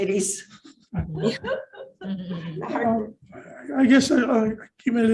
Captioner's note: panel laughs